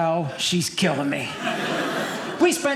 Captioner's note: audience laughing